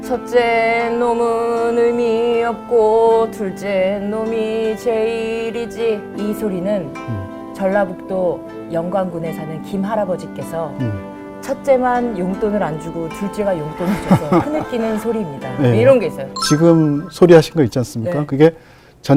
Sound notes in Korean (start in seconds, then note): 13.7 흐느끼는 중